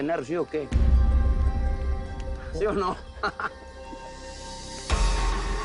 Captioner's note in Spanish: Risas